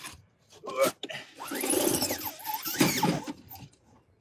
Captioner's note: screen unrolling